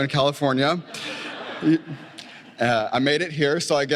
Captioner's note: laughter